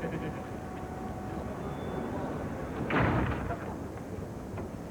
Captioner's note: door closes